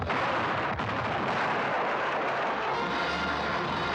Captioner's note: cannons firing; wall crashing in; dramatic orchestral music; sounds of battle